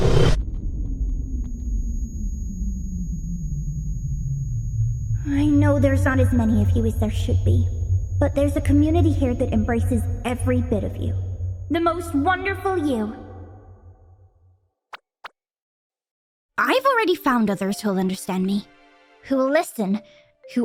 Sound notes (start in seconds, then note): 0.2 ringing; 5.2 bot's voice